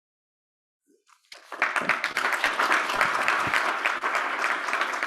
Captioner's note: audience applauds